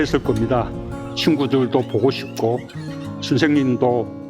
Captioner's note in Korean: 아이들이 교실에서 떠드는 소리